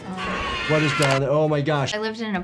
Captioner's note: man screams